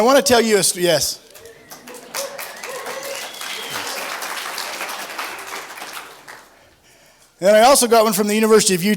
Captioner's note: applause